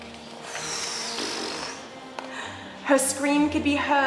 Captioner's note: expelling air